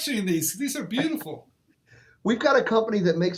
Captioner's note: chuckles